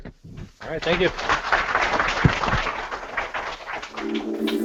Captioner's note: applause